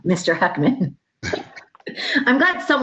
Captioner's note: laughter